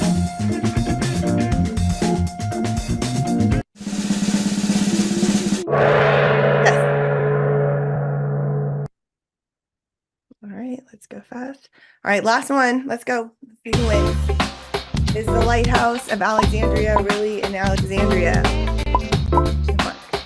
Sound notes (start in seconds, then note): 3.8 drum roll; 5.6 gong